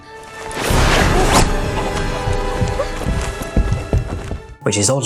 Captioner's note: tense menacing music; footsteps thumping